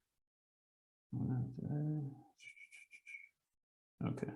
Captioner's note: speaks softly